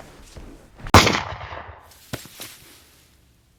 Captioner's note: gunshot